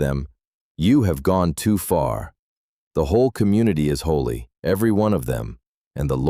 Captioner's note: exasperated